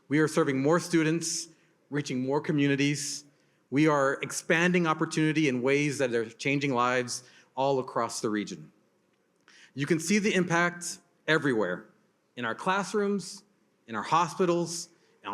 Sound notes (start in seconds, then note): none